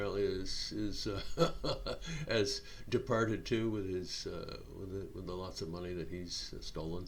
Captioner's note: chuckling